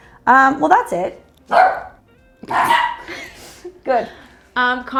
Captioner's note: dog barks; chuckles